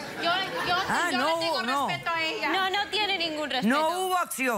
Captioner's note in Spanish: risas